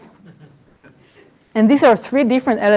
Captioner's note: laughter